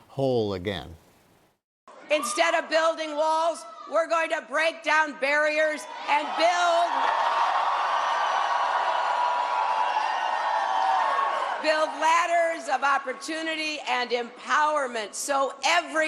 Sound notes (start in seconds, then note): 9.1 cheers